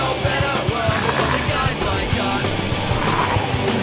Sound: zombie growls

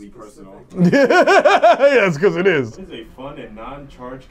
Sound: laughter

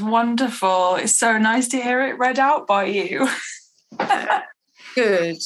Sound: laughs

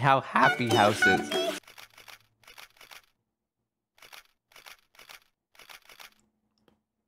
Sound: sounds of camera shutters going off

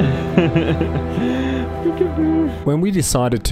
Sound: laughing

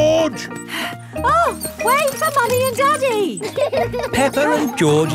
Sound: panting

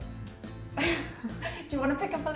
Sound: laughs

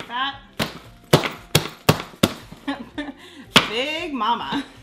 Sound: smacking

